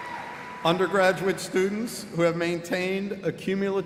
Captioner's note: cheers and applause